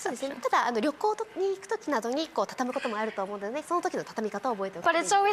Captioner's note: Marie Kondo speaking Japanese